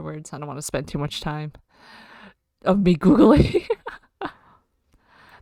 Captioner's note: laughs